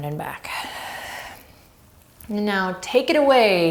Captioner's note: deep breathing